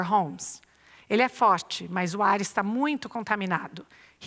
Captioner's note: non-english speech